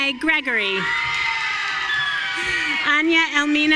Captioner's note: audience cheering